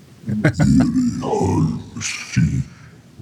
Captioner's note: laughter